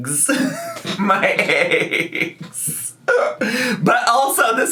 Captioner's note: laughs